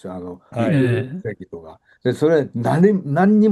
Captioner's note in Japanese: 咳払い